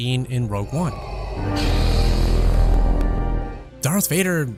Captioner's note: Darth Vader breathing; light saber turns on